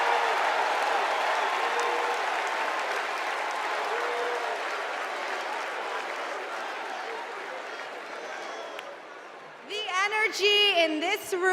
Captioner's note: cheers and applause